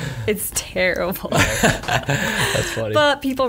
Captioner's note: laughs